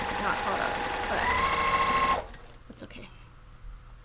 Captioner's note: sewing machine roars